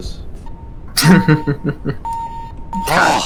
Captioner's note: chuckles